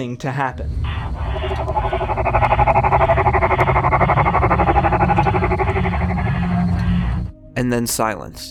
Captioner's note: distorted electronic hum